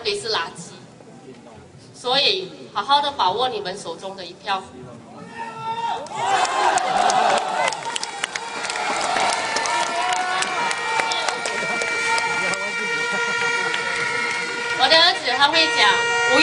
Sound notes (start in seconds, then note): 9.2 crowd